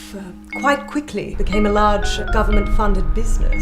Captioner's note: none